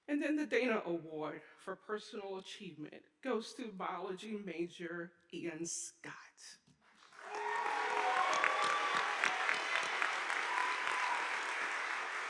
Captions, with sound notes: And then the Dana Award for Personal Achievement goes to biology major, Ian Scott. (audience applauding)